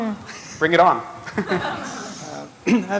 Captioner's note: laughter